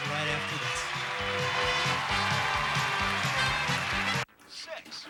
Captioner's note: audience applauding